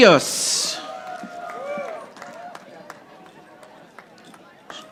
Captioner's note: audience applauding